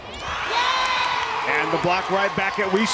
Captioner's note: crowd and players cheering